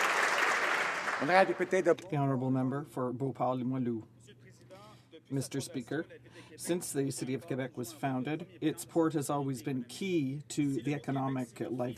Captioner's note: applause